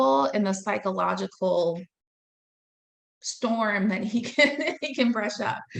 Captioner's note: laughing